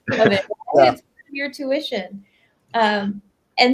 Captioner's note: both laugh